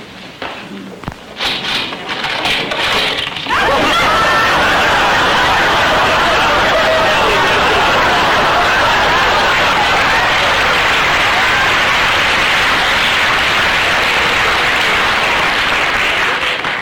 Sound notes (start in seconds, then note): 3.5 audience laughter; 9.8 audience applause